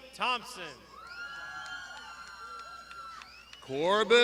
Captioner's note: graduands shouting